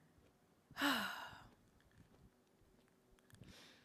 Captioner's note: sighs